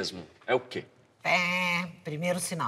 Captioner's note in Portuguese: imitando alarme